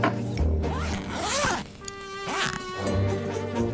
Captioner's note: quirky music; unzipping suitcase; quirky music